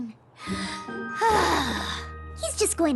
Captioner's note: relieved sigh